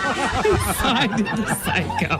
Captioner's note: laughter